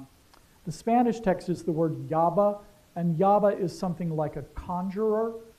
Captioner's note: spanish